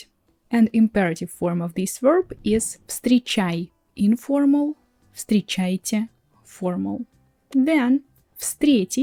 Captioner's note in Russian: неформально